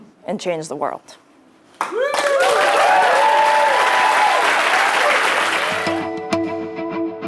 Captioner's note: applause